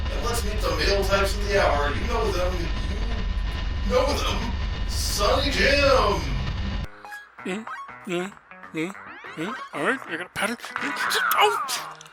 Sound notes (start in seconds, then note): 6.4 game noises, grunting; 10.6 crack noise, game "Augh!"